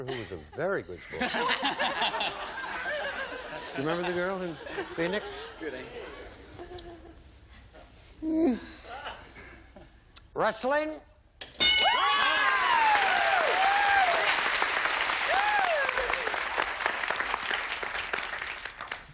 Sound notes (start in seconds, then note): 11.5 bell; 18.0 applause